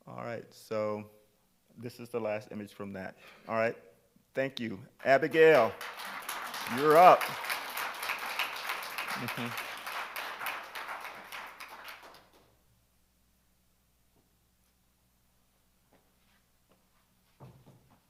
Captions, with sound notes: All right, so this is the last image from that. All right, thank you. Abigail, you're up. (attendees applaud)